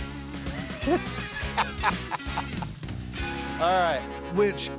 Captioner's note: laughter